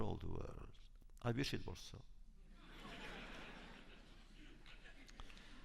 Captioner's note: laughter